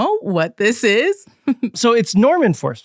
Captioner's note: giggles